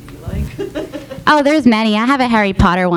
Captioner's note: laughing